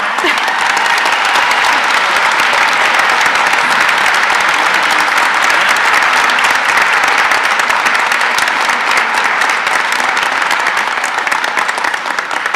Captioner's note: applause